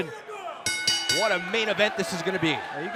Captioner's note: bell